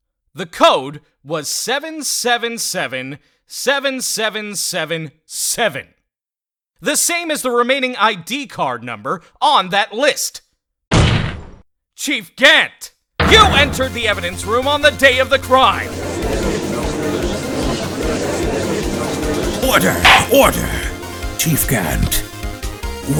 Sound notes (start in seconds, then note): 16.5 gallery chattering